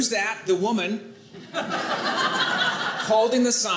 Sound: audience laughing

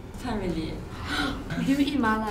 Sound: gasps

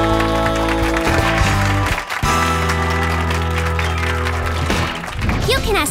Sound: clapping

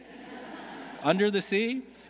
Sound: audience laughing

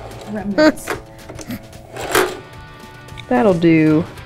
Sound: sewing machine pops

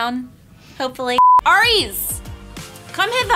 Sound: beeps

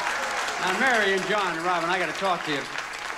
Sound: audience applauding

